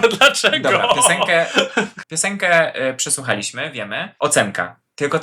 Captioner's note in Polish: śmiech